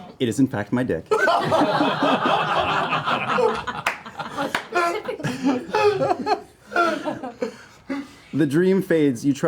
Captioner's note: laughter